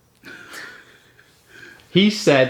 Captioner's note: both giggle